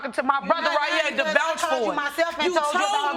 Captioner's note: arguing